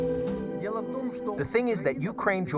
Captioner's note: speaking foreign language